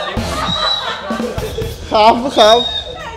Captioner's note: laughs; laughing continues